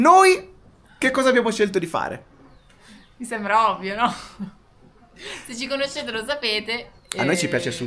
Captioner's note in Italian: risate